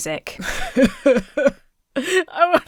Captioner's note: Emma cries